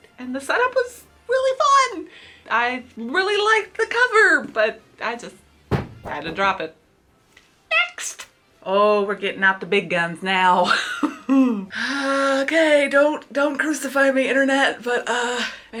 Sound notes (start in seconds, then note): 5.7 book thuds onto floor; 10.8 laughs nervously